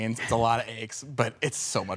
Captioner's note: none